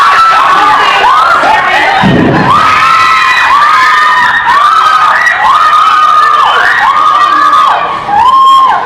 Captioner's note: screaming; more screaming